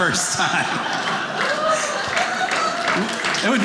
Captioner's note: audience laughing